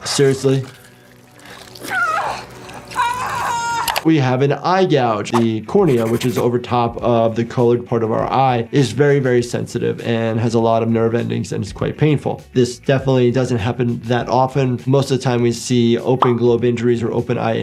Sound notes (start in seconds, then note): 3.0 victim yelling